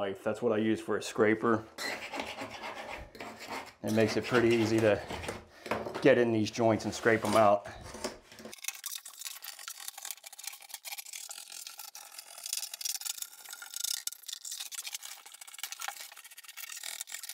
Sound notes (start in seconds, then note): 9.4 knife scraping